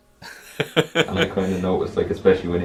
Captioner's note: laughs